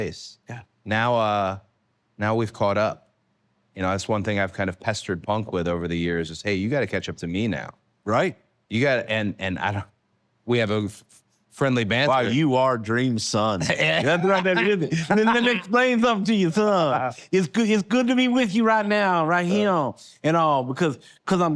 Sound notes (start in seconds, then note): 13.6 laugh